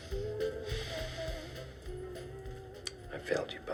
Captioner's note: sighs